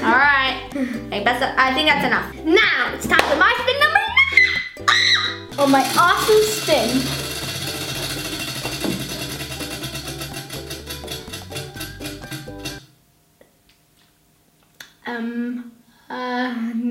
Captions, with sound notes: All right, I think that's enough. Now it's time for my spin number nine (shrieks)! For my awesome spin. Um...uh...no.